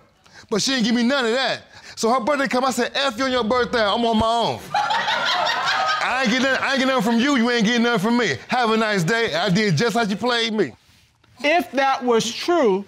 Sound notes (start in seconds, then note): 4.6 audience laughs